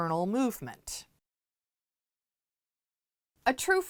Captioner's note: no Sound Present